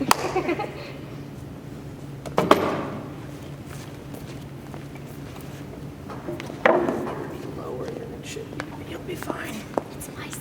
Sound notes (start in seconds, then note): 0.0 girls giggle; 0.0 hand claps; 2.3 chair thuds